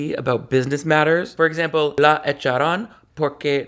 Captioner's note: speaks in Spanish